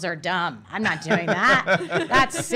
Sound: laugh

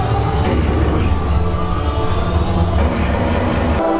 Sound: guns firing

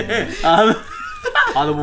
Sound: laughs

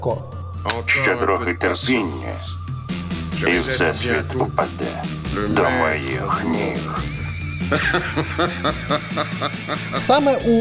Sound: laughter

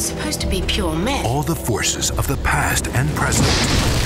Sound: voiceover

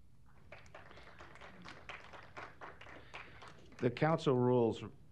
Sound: applause

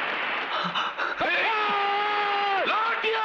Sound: screams

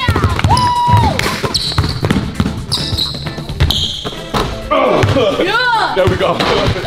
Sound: ball bouncing; shoes squeaking

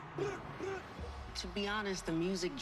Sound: all grunting

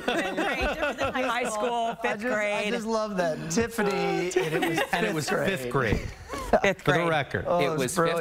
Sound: laughter

